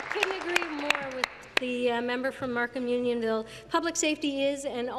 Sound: applause

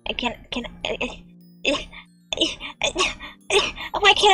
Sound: struggling noises

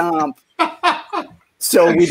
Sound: laughing

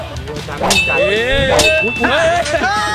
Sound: cheering; sword shing; cheering

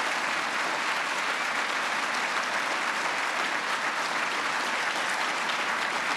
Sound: applause

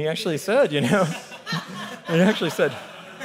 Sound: laughing

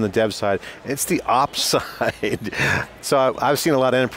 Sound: laughs

